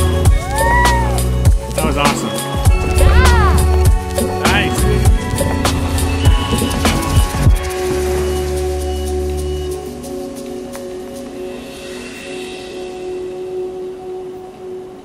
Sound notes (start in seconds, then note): 5.4 gentle music; 7.3 wind blows; 8.6 gentle music continues